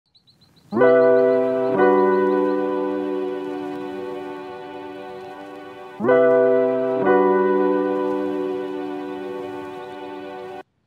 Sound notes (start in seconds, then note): 0.8 warm, upbeat, Introduction music plays; 2.8 sounds of birds in the distance